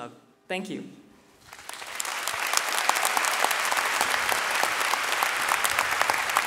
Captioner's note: audience cheering and clapping